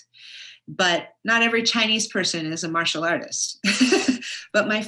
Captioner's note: laughs